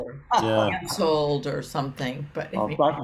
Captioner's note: laughs